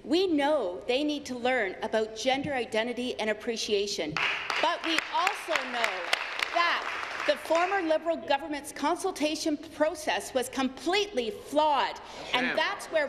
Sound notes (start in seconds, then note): 7.3 applause